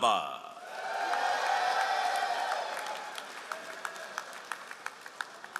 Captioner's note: all applauding